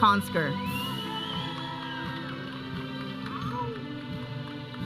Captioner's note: audience cheering